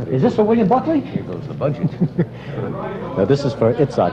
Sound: laughter

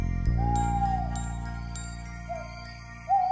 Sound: owl Hoots

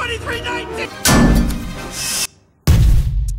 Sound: metal clangs; bomb explodes

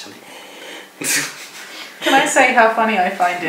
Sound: laughing

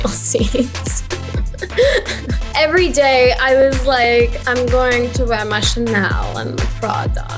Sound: laughs

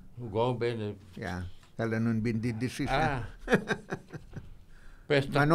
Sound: laughing

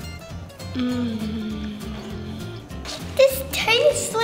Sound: moans

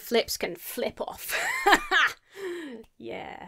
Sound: laughs self-satisfiedly

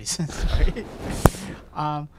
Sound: laughter

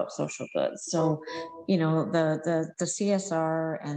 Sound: computer chiming

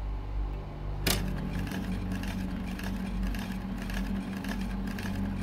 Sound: film reel clicking

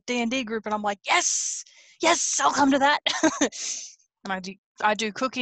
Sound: laughs

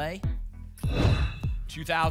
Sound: whoosh

